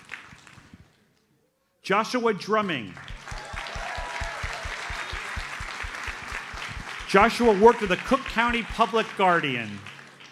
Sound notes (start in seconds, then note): 3.0 audience cheers and applauds